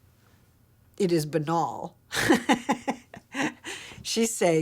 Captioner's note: laughing